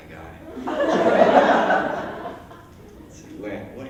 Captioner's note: laughter